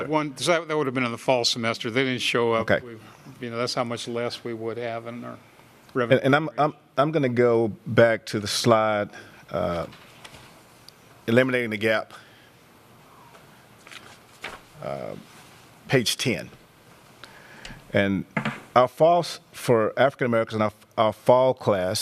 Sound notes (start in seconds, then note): 12.4 A pause; 13.8 sound of pages turning